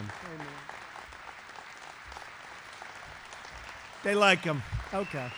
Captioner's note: applause